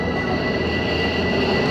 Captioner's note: plane noise